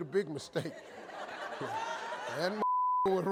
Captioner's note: audience laughing